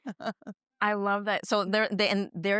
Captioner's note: laughs